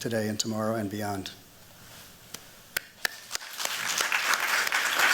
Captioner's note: applause